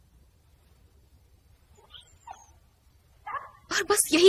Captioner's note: dog whimpering